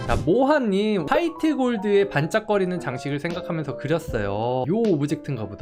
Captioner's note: voiceover